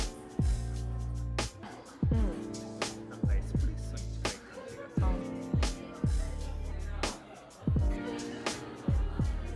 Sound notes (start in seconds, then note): 6.6 laughs